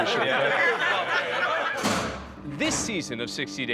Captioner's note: everyone laughing